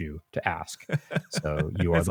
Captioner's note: laughs